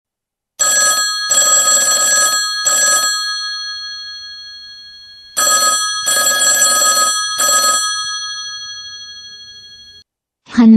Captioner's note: telephone bell is ringing